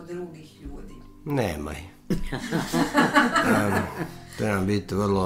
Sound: laughter

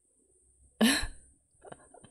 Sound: chuckles

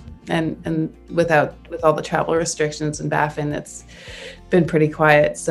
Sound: none

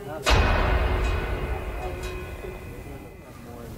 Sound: suspenseful crash

